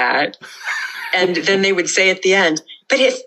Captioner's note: laughter